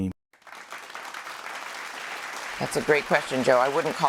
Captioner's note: light applause